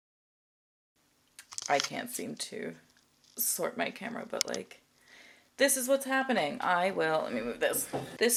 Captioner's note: camera jostles